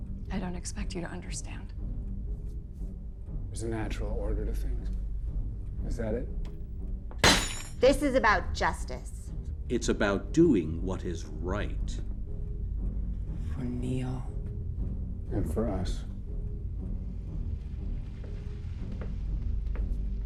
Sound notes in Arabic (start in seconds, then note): 7.3 يد تضرب على الطاولة; 16.2 موسيقى أوركسترالية درامية